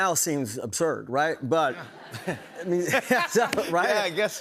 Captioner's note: laughter